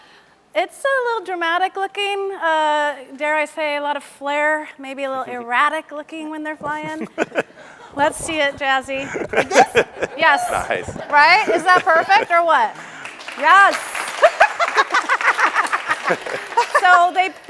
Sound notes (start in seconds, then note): 7.3 laughs; 13.3 audience claps; 14.2 laughs